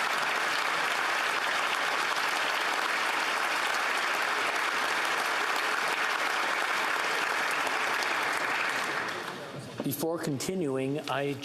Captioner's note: applause